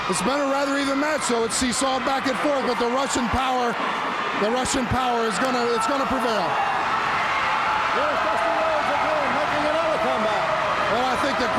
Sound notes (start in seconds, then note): 6.8 audience cheers